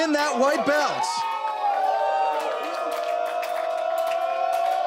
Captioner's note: audience cheers